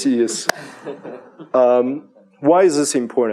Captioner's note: chuckles